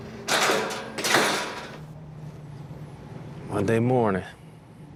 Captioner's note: gate clanking